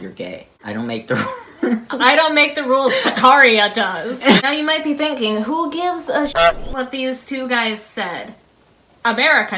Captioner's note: honk